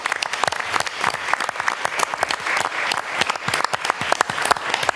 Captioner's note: applause